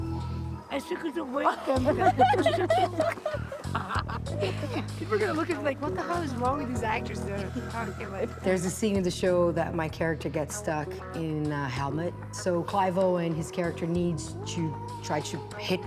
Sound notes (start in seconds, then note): 1.5 laughter